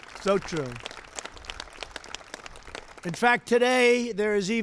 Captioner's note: applause